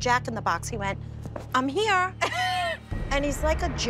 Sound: laughs

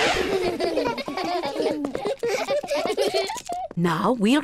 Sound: all laugh

